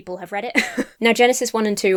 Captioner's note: chuckles